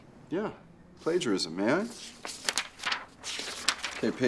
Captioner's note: paper rustling